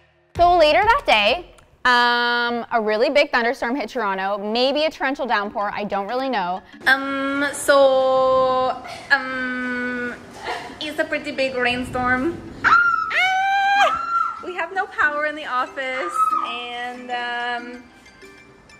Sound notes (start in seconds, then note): 12.6 everyone squealing; 15.9 background squealing